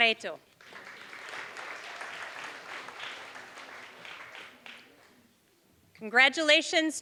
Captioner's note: applause